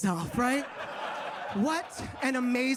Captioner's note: audience claps